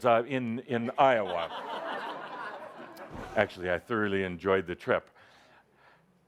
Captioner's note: laughter